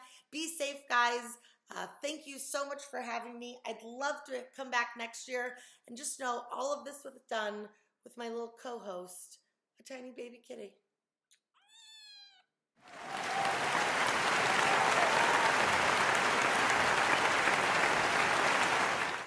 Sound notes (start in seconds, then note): 11.6 cat meows; 12.8 applause